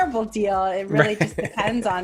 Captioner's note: laughing